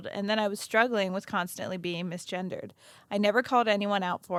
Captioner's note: none